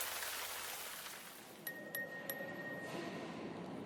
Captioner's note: pinging